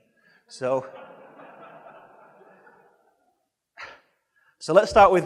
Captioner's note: audience laughing